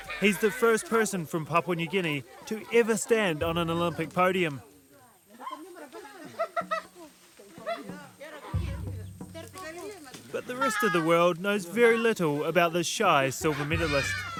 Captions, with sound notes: He's the first person from Papua New Guinea to ever stand on an Olympic podium. [laughter and talking] But the rest of the world knows very little about this shy silver medalist.